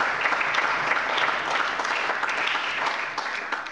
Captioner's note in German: Allgemeiner Beifall